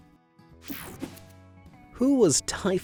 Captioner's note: image whooshing